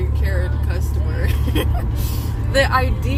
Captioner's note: laughter